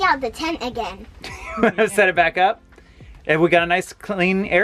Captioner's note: laughing